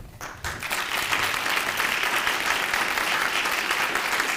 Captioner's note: audience clapping